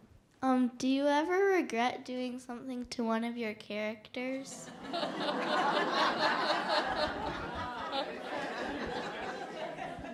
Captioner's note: laughter